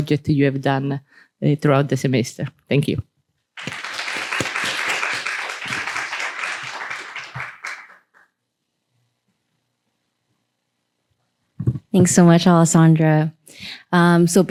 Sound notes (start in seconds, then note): 3.6 applause